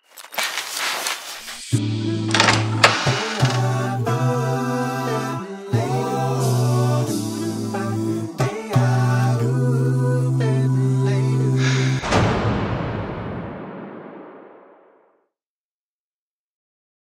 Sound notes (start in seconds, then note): 0.0 mattress creaks; 2.3 door creaks open; 11.4 song slams to an echoed stop; 11.6 inhales